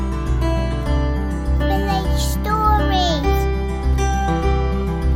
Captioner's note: child's voice